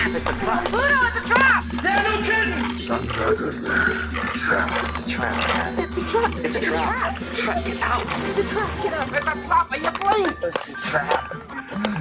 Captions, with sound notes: Send word to the pale Orc. Tell him I have found his prize. [LAUGHING]